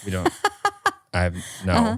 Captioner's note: laughing